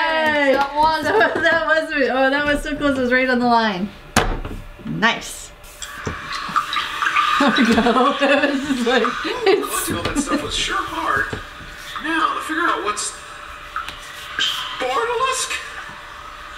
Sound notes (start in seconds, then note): 4.1 hits table; 5.8 dripping water